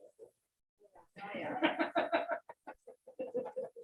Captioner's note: faintly speaking